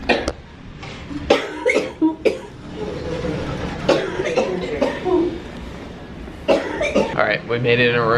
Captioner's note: coughing